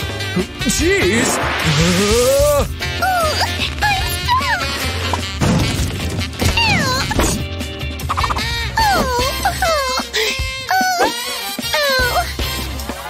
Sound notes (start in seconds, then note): 3.6 moaning